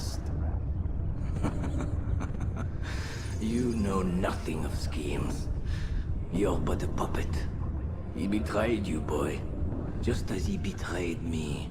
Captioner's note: laughs